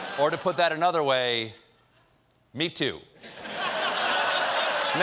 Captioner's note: applause; laughter